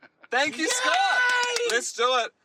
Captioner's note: laughs; claps